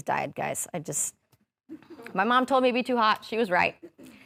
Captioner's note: audience laughing